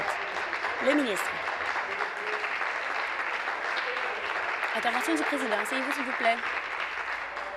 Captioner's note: applause